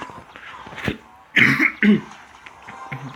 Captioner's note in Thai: ไอ